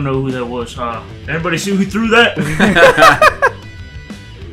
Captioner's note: laughter